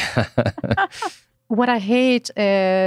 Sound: both laugh

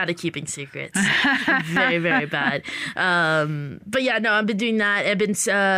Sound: laughter

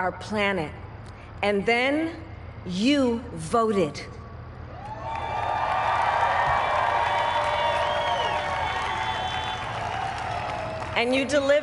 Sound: crowd applauds

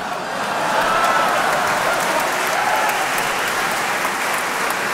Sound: audience laughing; audience cheering

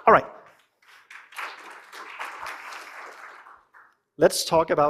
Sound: applause

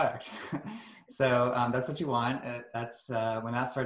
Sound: chuckles

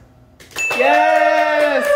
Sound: ding

